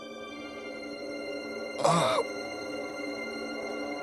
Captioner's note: groaning